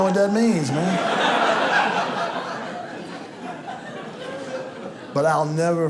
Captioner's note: audience laughs